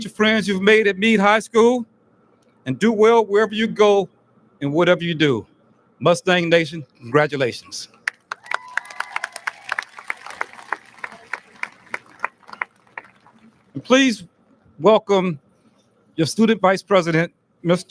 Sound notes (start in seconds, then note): 8.0 audience lauds